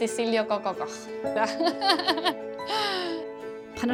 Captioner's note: laughs